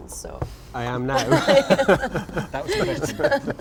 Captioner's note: laughs